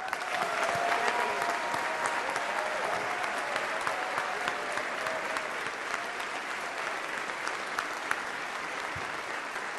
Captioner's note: cheers and applause